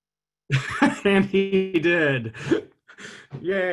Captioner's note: laughing